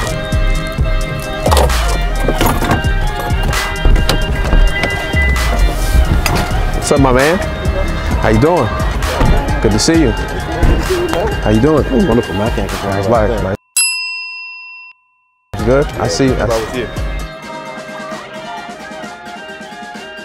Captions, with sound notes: What's up, my man? How you doing? Good to see you. - Good to see you, man. - How you doing? (chatting) (lively music)